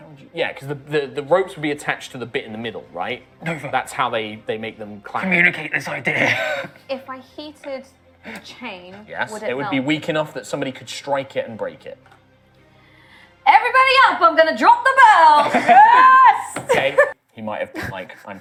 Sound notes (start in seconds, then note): 13.6 calling out